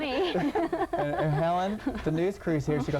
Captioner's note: all laughing